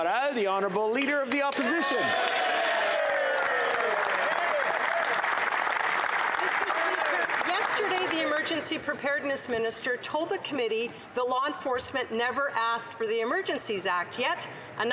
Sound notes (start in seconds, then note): 1.2 applause; 6.2 cheering and Applause